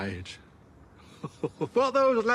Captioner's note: he chuckles